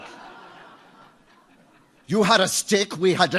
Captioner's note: audience laughs